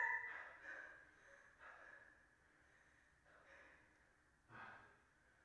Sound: Smirnov breathing heavily

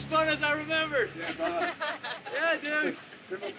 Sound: laughter

